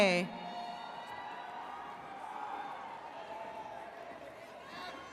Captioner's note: attendees cheering